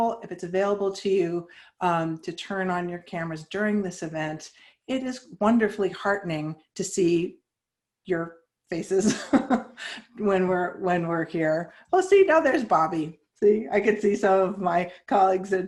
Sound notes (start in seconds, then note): 9.0 chuckles